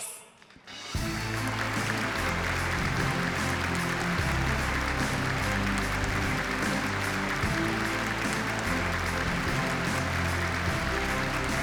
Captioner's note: applause